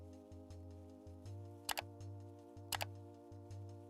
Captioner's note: keyboard clicking